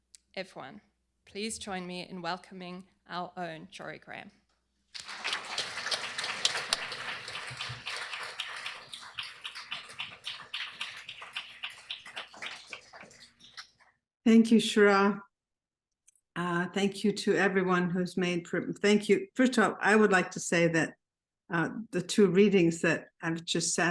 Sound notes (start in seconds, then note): 4.9 applause